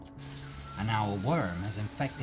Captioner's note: shower running